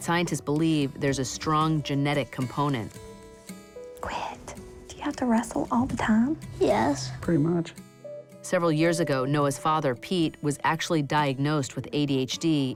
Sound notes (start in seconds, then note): 3.8 whispers